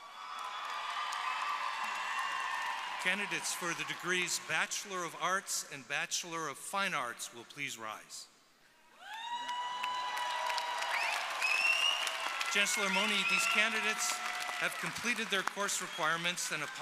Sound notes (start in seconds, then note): 0.0 audience applauding; 9.0 audience applauding